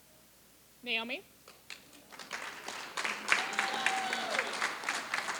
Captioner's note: applause